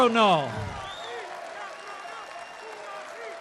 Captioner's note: applause